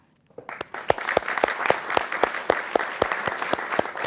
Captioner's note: audience clapping